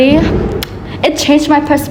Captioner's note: clicks tongue